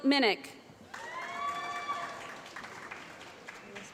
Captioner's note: applause